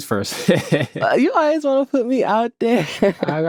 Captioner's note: laughs